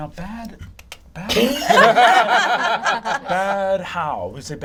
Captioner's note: all laugh